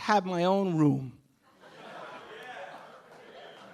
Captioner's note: audience laughing